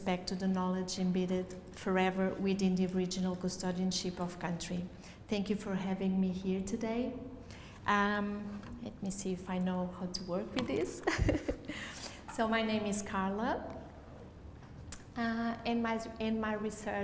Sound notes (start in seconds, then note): 11.0 laughs